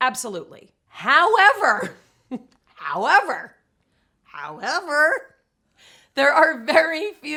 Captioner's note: laughs